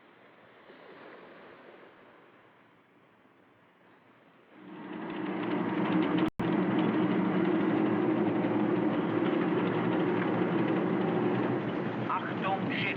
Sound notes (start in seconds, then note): 4.5 winch Whirring; 10.5 man On P.A